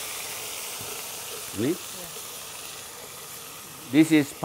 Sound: sizzling sound

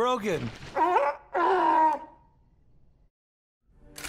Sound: barking

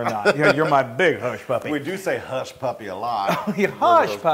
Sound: laugh; laugh

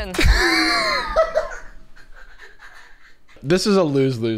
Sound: laughing

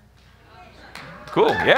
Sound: audience cheers

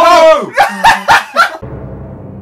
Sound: laugh

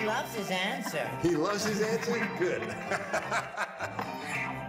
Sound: laughs

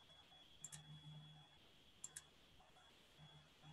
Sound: clicking

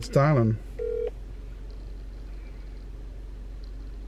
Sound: phone ringing

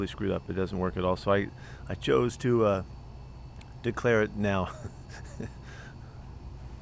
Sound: laughter

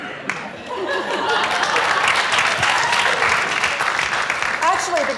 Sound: applause

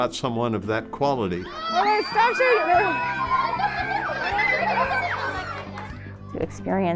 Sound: screaming and giggling

